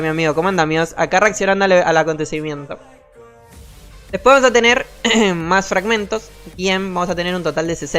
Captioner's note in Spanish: carraspeo